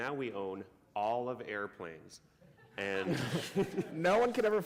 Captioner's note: laughter